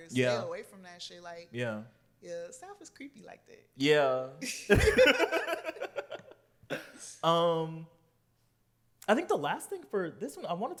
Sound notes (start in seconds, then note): 4.6 laughter